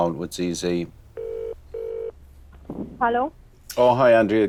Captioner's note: phone ringing